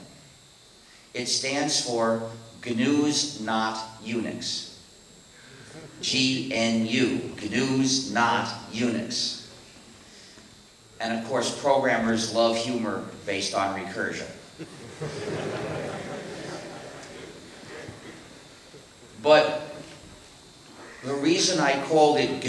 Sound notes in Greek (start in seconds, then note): 5.4 Απαγγέλλει αργά; 14.6 Γέλια από το ακροατήριο